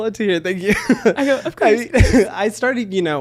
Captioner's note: mumbles